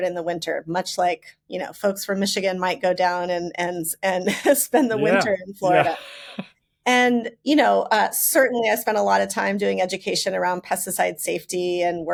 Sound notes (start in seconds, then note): 4.8 laughs